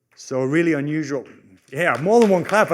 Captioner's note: applause